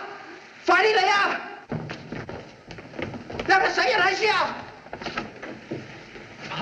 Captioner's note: Jimmy Shouting In Chinese